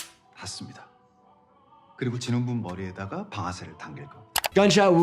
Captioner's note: gun cocks; recruiter speaking in Korean